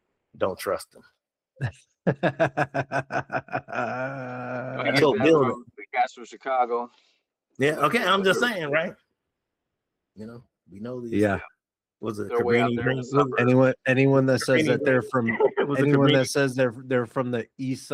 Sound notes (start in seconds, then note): 2.0 laughing